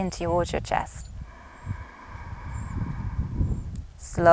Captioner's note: inhales deeply